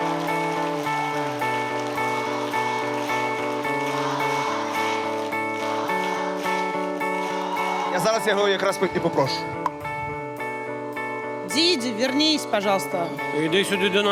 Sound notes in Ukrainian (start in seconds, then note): 4.1 оплески